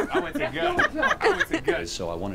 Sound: loud laughter

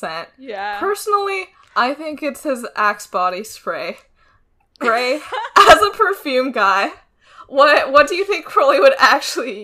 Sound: laughs

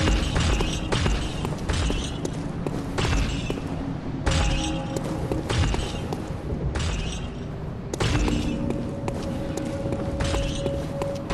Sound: chains

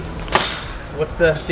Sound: hangers clink together

